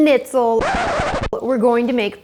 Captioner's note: record scratches